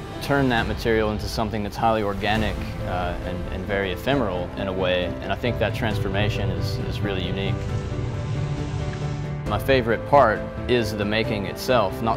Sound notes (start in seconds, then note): 7.6 steam hissing